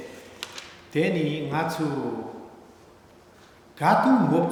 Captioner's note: speaking tibetan